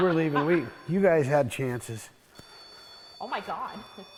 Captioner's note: REM pod beeps